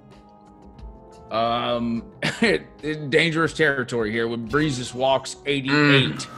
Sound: cough

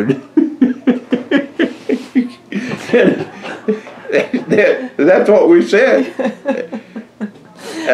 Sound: laughter

